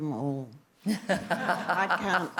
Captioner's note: laughter